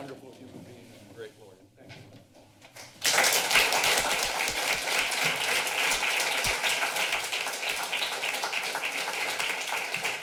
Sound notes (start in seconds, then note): 2.8 applause